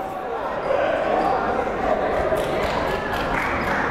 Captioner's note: chattering